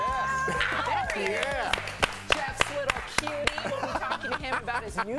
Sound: laughter

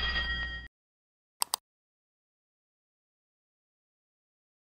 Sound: bell ringing; click

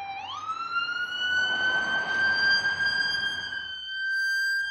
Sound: sirens blaring

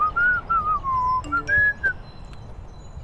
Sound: whistling; phone chimes

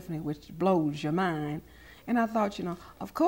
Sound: none

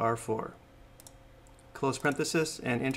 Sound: mouse clicks

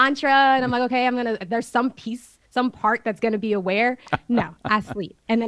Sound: Sadhguru laughs

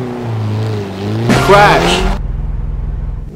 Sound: crash

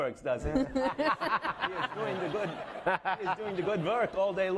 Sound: laughing

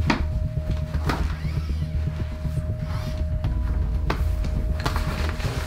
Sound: motor sounds quietly

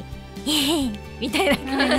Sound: chuckle

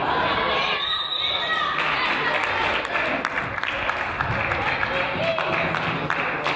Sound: whistle blows

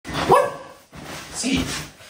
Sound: dog barking

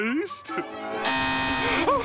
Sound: buzzing

